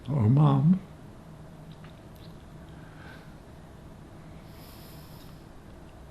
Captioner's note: pauses 4 seconds